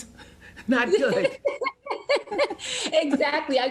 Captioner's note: laughing